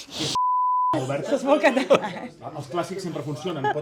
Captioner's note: beep